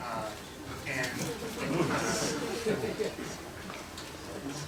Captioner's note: laughter